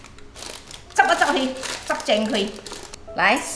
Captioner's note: Cantonese